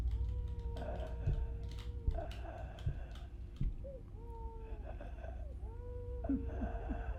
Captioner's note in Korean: 죽어가는 신음소리; 아기 우는소리; 남자 우는소리